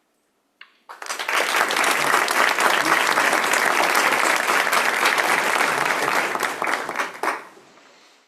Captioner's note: applause